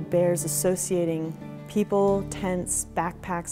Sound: none

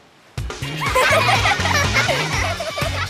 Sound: laughing

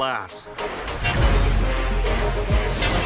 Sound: glasses beep

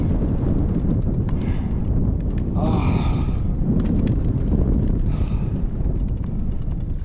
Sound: sighs

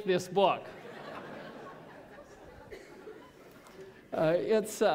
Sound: laughter

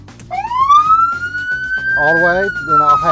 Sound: siren blaring

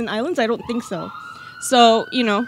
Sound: ambulance siren

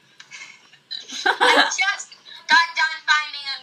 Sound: laughing

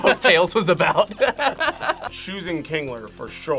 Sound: both laugh

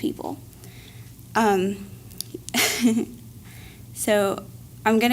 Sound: laugh

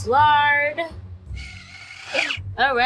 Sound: food processor running

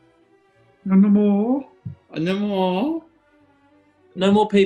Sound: horne + watson mimic

